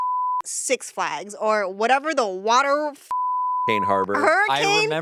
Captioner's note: beep; beep